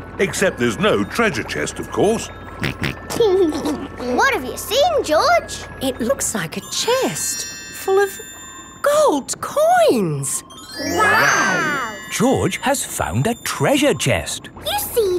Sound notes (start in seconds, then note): 2.6 snorts and laughs